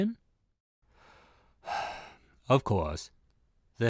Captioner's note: sighs